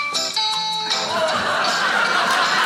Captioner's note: audience laughing; audience clapping